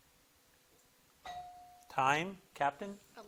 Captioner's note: timer dings